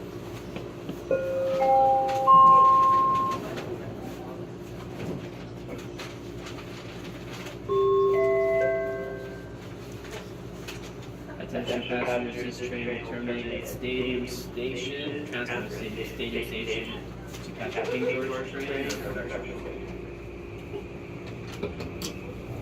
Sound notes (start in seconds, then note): 1.1 Skytrain Door Chime; 7.7 Bombardier Innovia Metro 3 Annoucement Chime